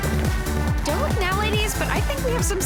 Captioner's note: gasps